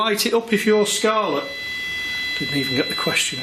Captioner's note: machine beeping